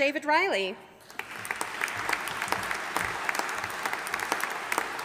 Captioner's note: audience applauding